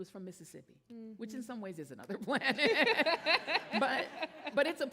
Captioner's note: laughs